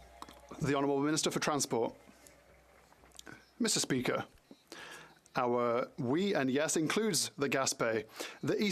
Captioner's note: some Applause